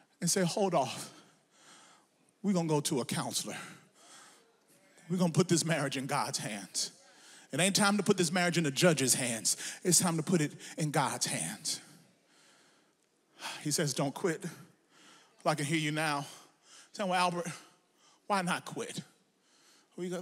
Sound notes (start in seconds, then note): none